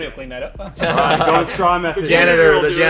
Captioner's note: everyone laughs